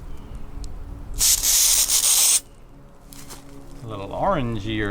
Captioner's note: spraying